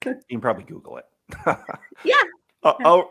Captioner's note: laughs